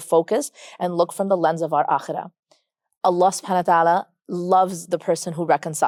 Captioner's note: speaks Arabic